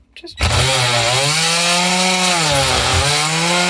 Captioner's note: tool running